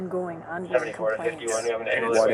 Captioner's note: radio chatter